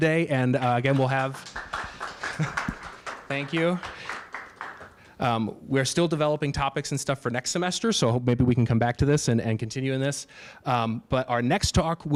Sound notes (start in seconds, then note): 0.6 applause